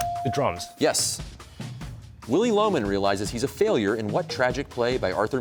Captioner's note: none